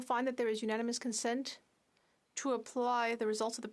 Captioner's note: speaking French